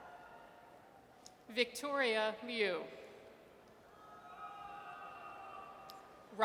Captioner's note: audience cheers; audience cheers